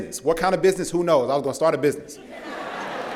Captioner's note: laughter